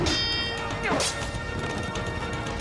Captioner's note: metal clanging